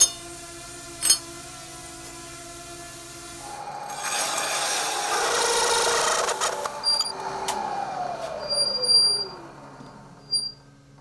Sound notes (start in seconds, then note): 0.1 metal clanking; 6.0 screeching